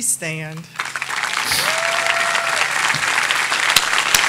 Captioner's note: audience applauding